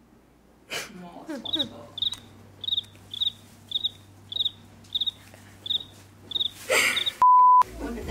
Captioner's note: crickets